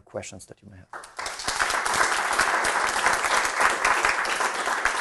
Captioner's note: audience applauds